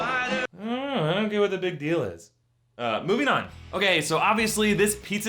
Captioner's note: hmm